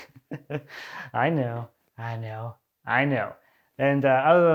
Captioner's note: laughing